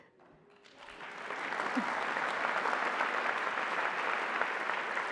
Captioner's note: applause